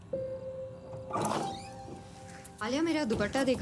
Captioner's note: bathroom door opens